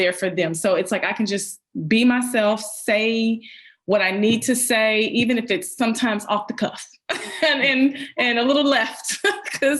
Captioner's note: laughs